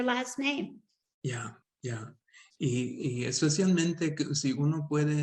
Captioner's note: speaking Spanish